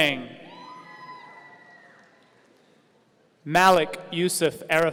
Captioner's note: audience cheering